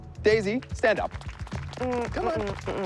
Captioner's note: applause